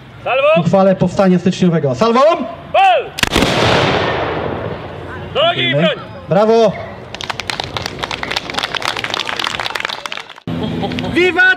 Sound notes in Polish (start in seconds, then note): 3.2 Strzały z broni; 7.1 Publiczność bije brawo